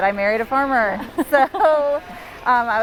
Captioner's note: laughs